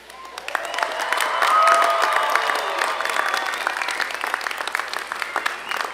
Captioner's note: applause